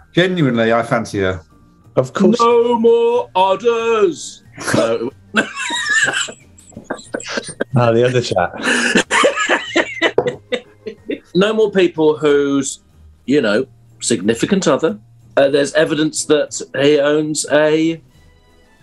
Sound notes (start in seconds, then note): 5.3 laughter; 9.6 laughing